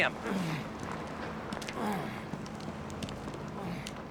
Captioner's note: grunting